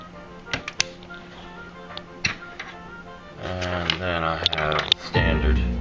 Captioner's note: click noise